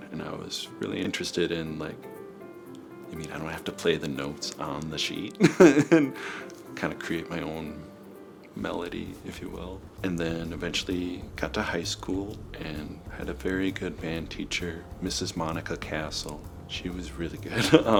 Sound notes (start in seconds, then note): 5.4 chuckles